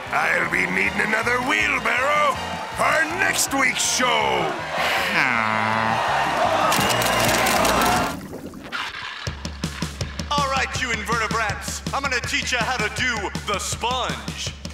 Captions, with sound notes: I'll be needing another wheelbarrow for next week's show! [sighing] [cheering] All right you invertebrats! I'm gonna teach you how to do the Sponge!